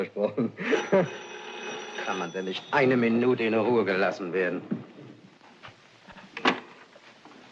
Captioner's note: telephone Rings